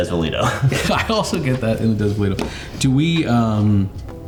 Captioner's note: laughs